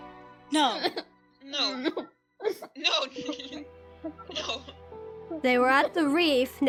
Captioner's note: DAMIEN sobs